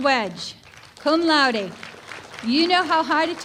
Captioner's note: applause